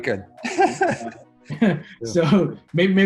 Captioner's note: laughs